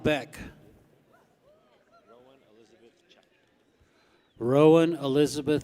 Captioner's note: people cheer